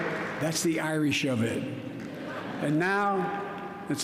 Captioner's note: laughter